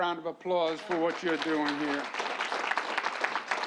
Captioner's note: applause